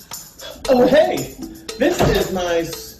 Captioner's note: door closes